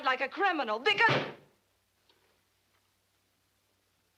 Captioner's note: hand thuds